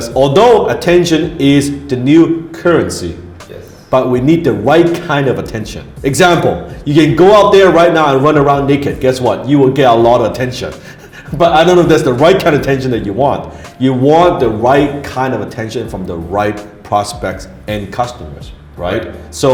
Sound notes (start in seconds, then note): 10.8 laughs